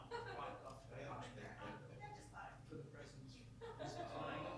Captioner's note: woman laughing